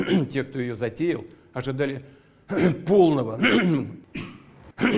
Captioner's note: coughs; coughs